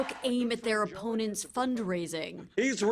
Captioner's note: applause